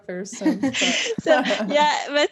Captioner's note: laughter